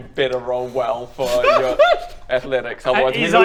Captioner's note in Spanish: chillidos cobardes